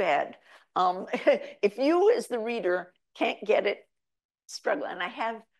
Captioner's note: chuckles